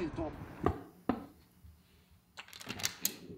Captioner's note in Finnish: koputus